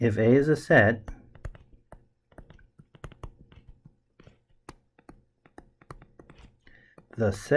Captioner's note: tapping Sounds